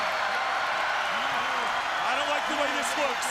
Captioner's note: crowd cheering